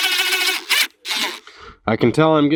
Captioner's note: drilling